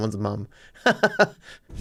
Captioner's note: laughing